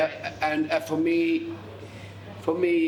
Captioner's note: none